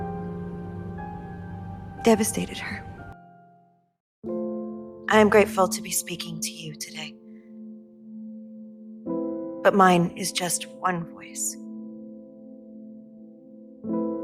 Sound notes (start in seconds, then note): 2.2 voiceover